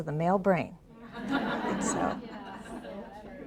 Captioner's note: audience laughs